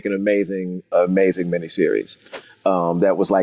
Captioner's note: whooshing sound